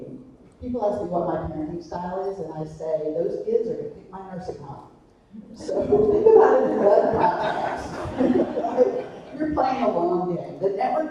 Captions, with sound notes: People ask me what my parenting style is, and I say, those kids are gonna pick my nursing home. So, I'm (laughing drowning out speaker). We're playing a long game.